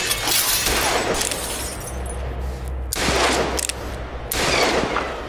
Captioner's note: glass shattering; gun firing; gun snapping; bullet whizzing